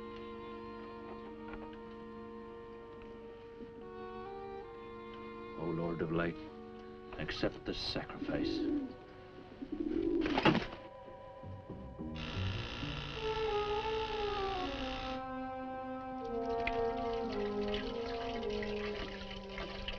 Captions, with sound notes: - Oh, Lord of light, accept this sacrifice. (dove cooing) (dagger thudding) (door buzzing)